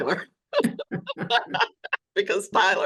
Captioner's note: laughter